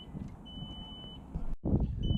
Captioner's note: alarm beeping